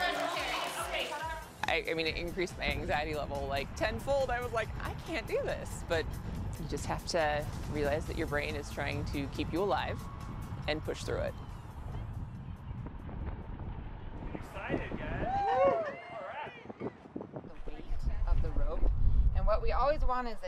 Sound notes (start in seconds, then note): 15.0 cheering